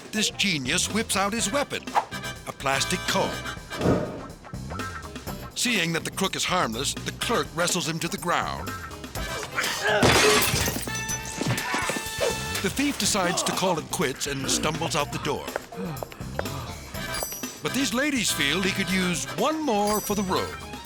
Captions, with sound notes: this genius whips out his weapon, a plastic comb. (upbeat music) Seeing that the crook is harmless, the clerk wrestles him to the ground. (thief grunting) (glass shattering) The thief decides to call it quits and stumbles out the door. (thief panting) But these ladies feel he could use one more for the road.